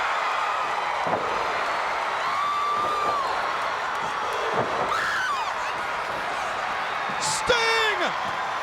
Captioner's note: crowd cheering